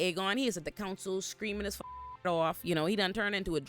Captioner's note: beep